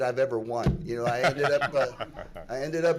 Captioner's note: laughing